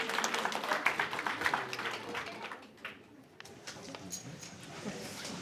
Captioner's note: cheering and applause